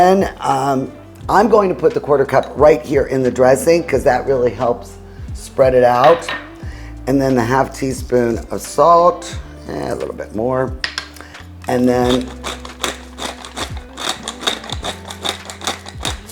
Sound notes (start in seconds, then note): 10.9 pepper grinding